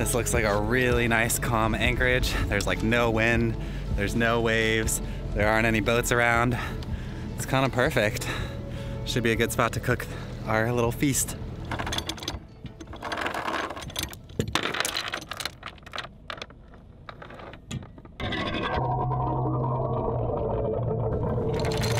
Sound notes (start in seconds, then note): 11.6 chain clanking; 19.0 anchor sinking; 21.6 chain clanking